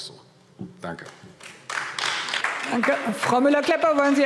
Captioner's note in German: Beifall AfD